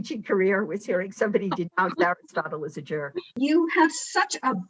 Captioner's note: laughing